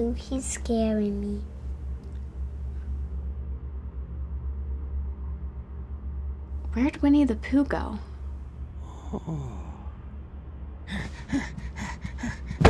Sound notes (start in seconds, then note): 8.8 breathing; 10.8 heavy breathing